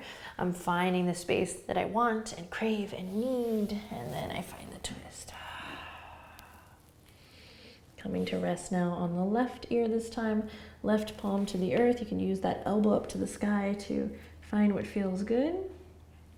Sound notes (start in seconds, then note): 5.3 exhaling